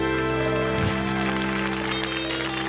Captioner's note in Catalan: aplaudiments